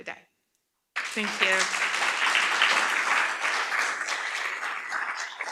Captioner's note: audience applauds